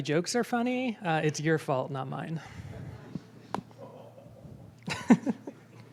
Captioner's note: audience chuckles